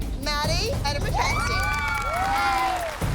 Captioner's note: cheering